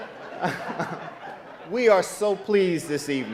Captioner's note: laughs; audience laughing